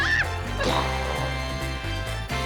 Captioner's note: making explosion sound